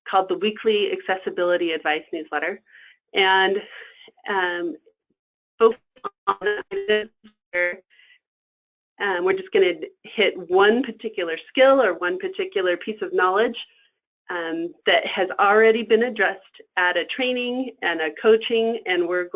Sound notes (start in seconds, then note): 6.0 static